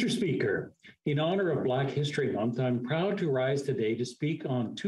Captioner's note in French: voix de l'interprète